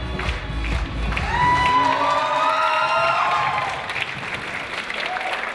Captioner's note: audience applauds and cheers